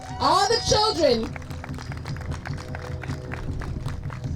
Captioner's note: applause